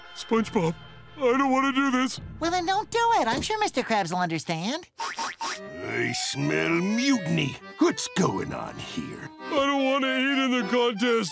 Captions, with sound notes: SpongeBob, I don't wanna do this. Well then, don't do it, I'm sure Mr. Krabs will understand. [sniffing] I smell mutiny. What's going on here? I don't want to eat in the contest.